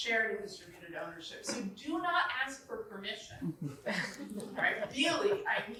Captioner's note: chuckling